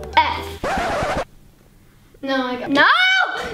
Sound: record scratching

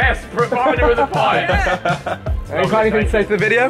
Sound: all laughing

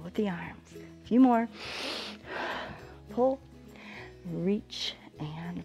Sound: inhales and exhales

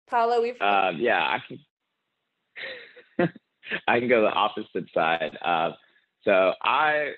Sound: laughs

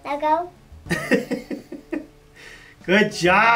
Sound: laughs

